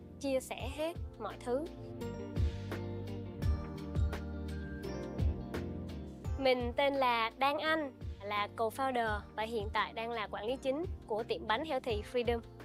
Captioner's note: speaking another language